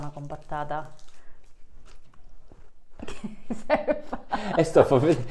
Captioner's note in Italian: Risate